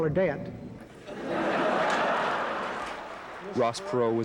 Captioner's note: laughter